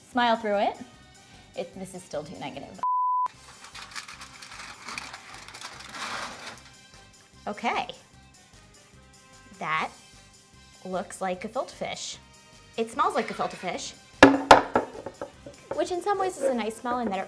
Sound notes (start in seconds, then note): 2.8 beep; 3.3 tinfoil rustling; 3.8 quiet upbeat music